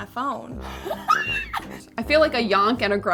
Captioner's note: laughing